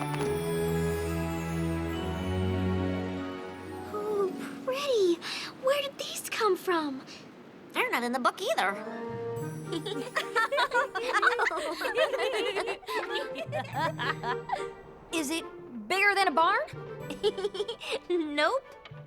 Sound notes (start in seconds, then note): 9.7 laughter; 17.0 chuckles